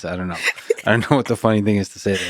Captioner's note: laughing